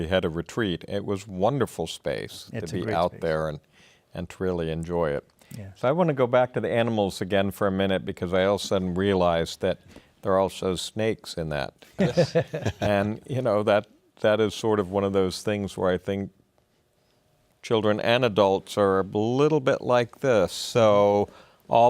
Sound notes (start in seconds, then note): 12.0 laughing